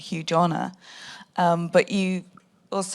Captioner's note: none